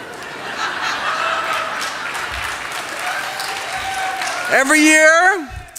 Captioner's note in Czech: Smích, potlesk